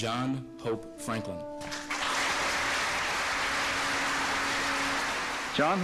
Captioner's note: audience applauding